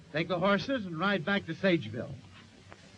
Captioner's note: none